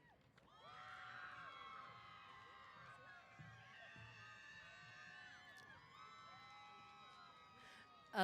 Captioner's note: cheers